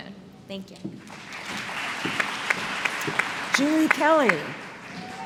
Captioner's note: applause